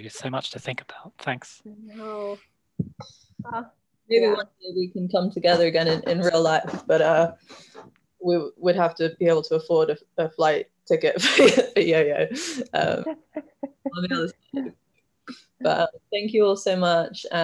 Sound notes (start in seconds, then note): 11.2 laughs; 13.0 laughs